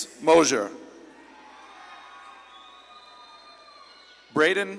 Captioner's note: audience claps and cheers